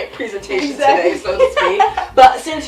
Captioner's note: laughs